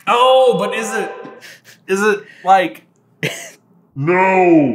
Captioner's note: chuckling with bemusement